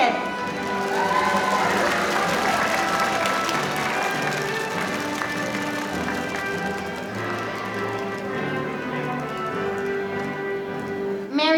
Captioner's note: applause